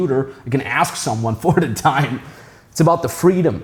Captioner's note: chuckling